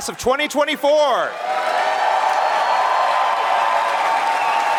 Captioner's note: crowd cheering